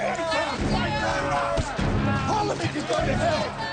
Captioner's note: crowd